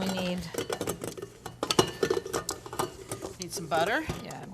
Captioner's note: bowl clattering